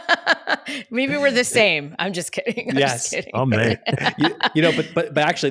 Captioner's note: laughs